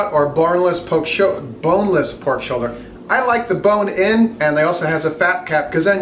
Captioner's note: none